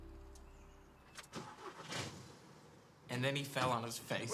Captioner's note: engine starts